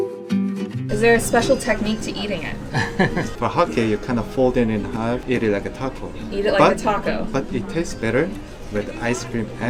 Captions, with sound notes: Is there a special technique to eating it? - (laughs)For a hotcake, you kind of fold it into half, eat it like a taco. - Eat it like a taco. - But it tastes better with ice cream